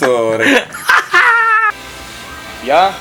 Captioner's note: laughter